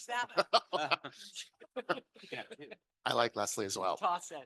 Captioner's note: laughing